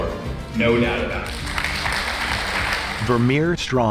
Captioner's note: audience applauds